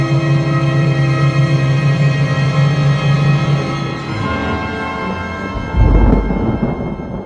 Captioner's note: thunder crashing